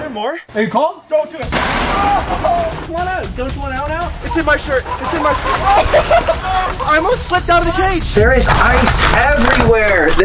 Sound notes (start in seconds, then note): 1.4 porta potty slams